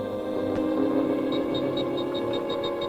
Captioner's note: device beeping